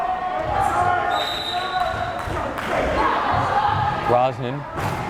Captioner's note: whistle blares